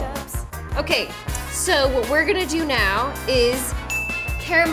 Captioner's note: bell dings